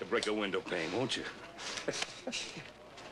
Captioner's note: both chuckle